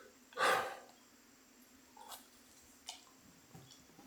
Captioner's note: man sighs